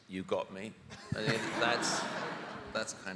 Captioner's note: audience laughing